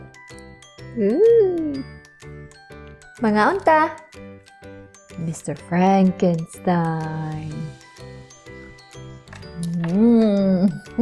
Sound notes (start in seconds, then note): 4.7 in scary voice